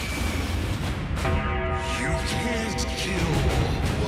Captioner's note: bell tolls